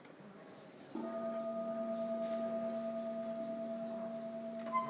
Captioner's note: sustained gong